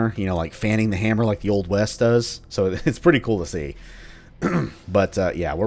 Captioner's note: chuckles; clears throat